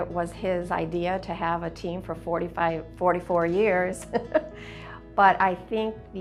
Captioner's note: laughs